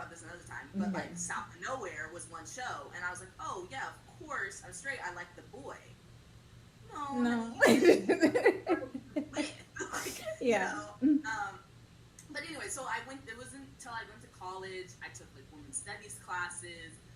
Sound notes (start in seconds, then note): 7.6 laughs